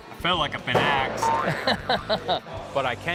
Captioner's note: laughing